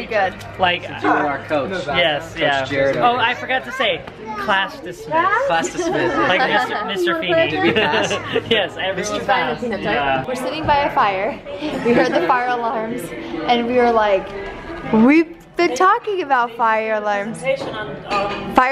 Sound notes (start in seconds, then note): 0.3 voiceover; 5.5 voiceover